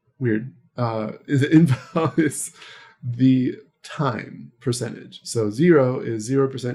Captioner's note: laughs